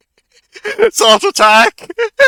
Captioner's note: giggling